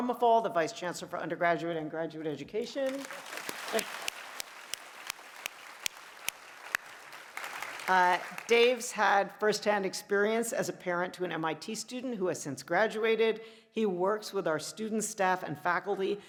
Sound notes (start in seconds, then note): 2.8 applause